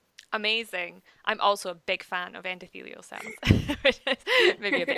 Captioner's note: laughs